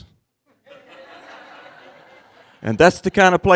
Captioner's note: crowd laughing